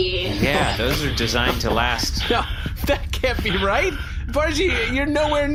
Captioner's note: laughing